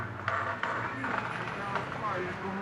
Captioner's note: suara terdistorsi